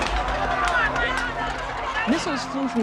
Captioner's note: crowd shouting, objects crashing